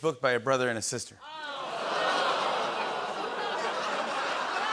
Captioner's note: audience groans